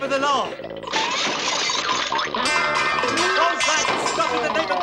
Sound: crashing!

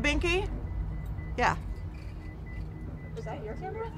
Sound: camera beeping

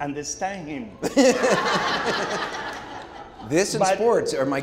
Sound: Anderson and audience laughing

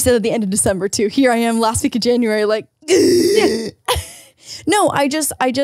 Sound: gasps

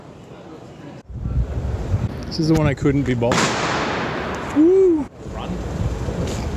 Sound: boom

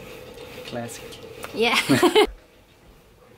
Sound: laughs

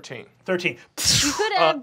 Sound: whooshes

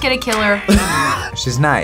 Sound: React laughs

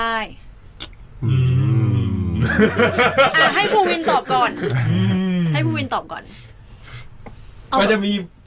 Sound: PPW reminisces in sync and laughs

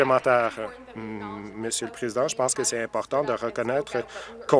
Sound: applause

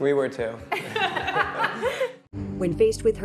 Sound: laughing

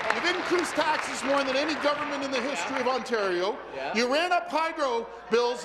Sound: applause

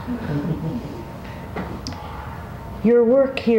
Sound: audience giggles

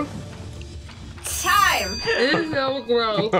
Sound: bell rings; laughs

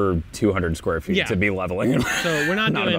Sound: laughs

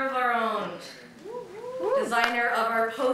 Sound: audience cheering

